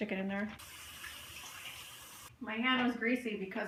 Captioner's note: faucet running